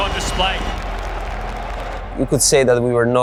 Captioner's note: crowd applauding